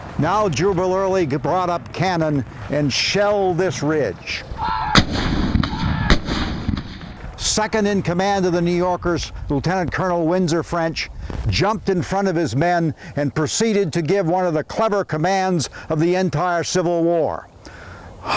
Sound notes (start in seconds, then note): 4.9 cannons fire